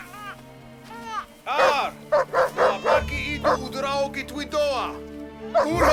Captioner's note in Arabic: الصوت المنطوق البدوي